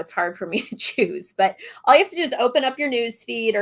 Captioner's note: laughter